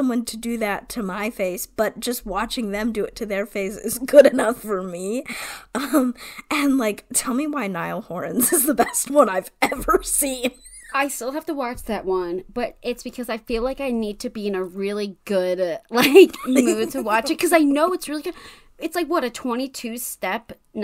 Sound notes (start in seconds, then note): 10.4 laughs